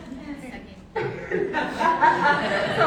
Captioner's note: laughter